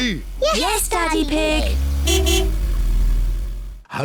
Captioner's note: honks horn